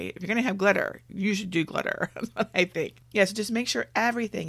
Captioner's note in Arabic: يضحك